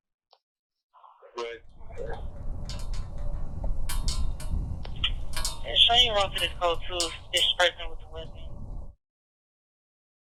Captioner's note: police radio chatter